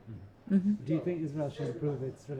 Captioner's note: voiceover